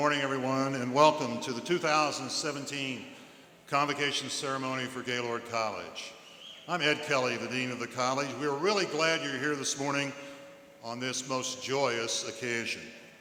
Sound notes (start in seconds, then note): none